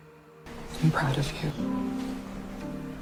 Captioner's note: voiceover